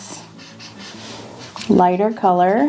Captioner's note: marker scratching